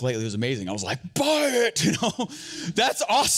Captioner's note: laughs